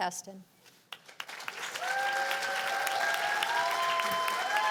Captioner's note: cheers and applause